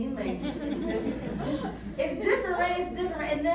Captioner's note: crowd laughs